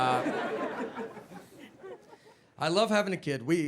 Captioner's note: audience laughing